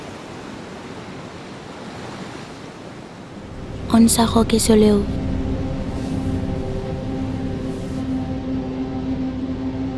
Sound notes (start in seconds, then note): 3.8 speaks non-española